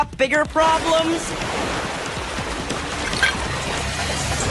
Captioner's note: water rushing